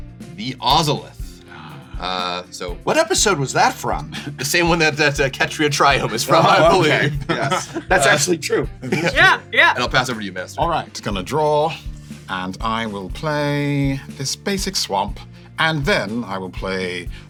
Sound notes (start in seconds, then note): 5.9 chuckles; 5.9 laugh; 5.9 laughs